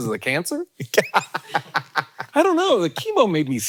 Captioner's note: Hank laughing